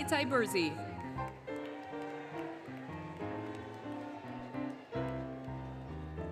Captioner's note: applause, Cheering, Music